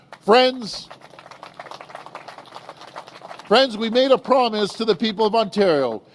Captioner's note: applause